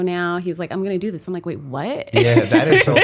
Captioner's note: laughter